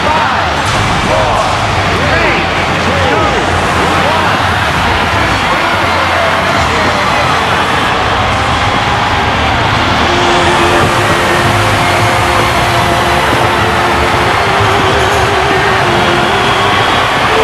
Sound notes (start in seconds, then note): 8.6 canadian French; 9.2 Spanish